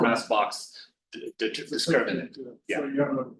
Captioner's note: overlapping chatter